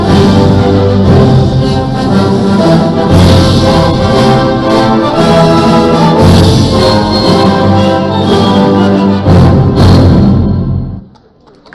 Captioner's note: applause